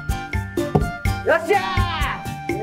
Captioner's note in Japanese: ダーツの刺さる音